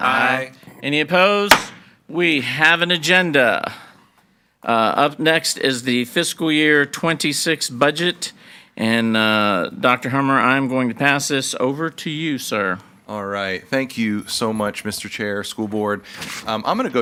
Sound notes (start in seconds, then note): 1.5 gavel bangs